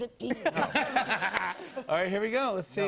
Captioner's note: laughter